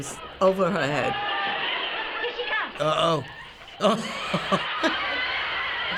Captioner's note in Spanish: Se ríe